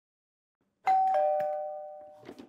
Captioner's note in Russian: Звонок в дверь